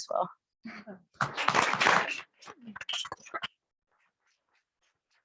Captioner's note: attendees clapping